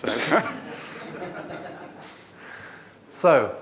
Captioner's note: audience laughs